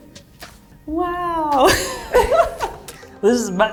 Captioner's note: laughs